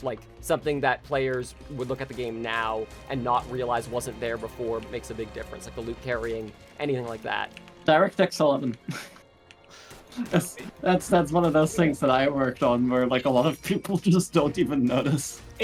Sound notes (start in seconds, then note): 10.1 laughs